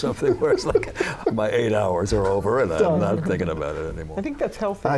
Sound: laughter

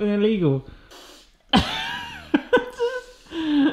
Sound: laughs

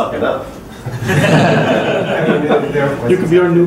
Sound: laughter

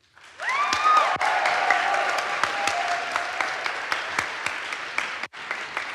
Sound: audience applauds; audience cheers

